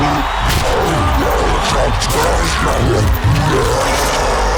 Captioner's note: cyclops growls